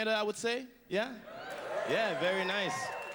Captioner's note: hoots and cheers